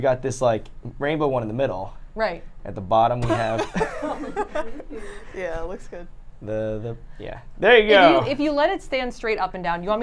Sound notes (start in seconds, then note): 3.3 everyone laughs